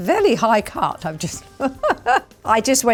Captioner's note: laughs